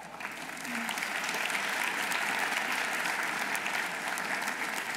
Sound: audience applauding

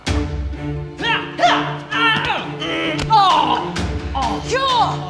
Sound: pained moan

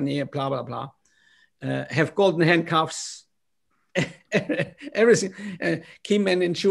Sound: laughter

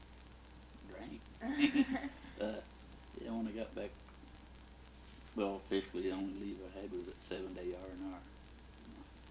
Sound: both laugh

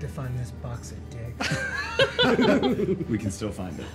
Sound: everyone laughs

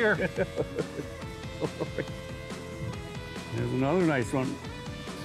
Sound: laughing

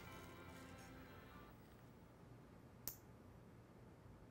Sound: nail clipper clicking

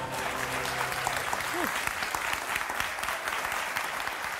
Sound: applause

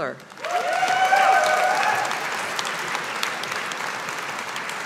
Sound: audience applauding

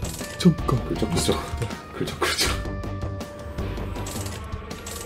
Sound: keeps scratching

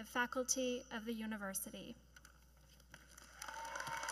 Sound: applause

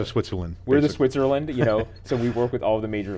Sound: laughing

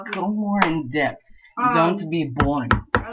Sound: glitchy Clapping; in a Russian Accent; glitchy Tapping on the Desk

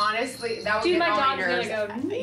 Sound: bells ringing

